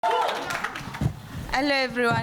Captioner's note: crowd applause